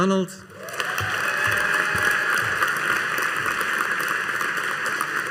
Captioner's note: audience applauding